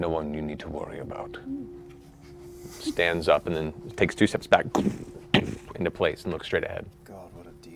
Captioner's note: heavy footfalls